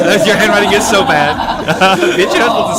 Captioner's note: haha